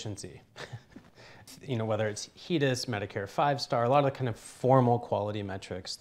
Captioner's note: chuckles